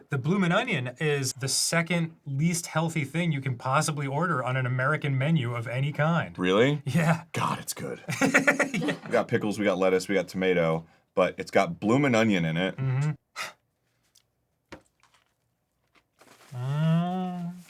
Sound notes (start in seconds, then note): 7.9 laughs; 13.3 exhales